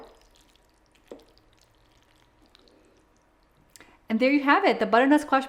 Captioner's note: wooden spoon tapping against pan; mac and cheese squelching